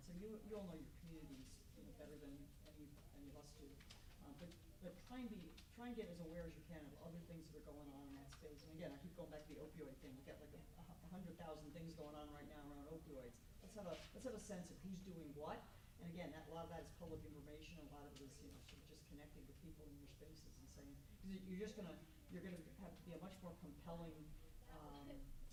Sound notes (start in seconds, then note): 14.0 stammers